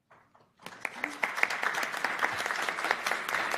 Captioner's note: applause